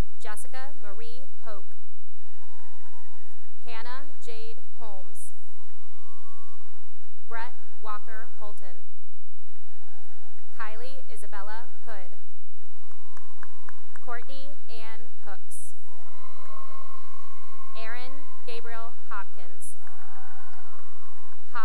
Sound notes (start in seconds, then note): 0.0 cheering and applause; 2.1 cheering and applause; 5.2 cheering and applause; 9.5 cheering; 12.5 cheering and applause; 15.8 cheering; 19.5 cheering and applause